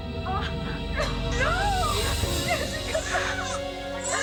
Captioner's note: crying